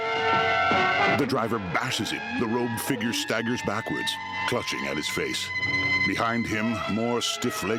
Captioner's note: pained moaning